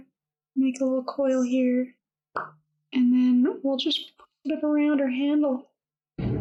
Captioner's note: pop!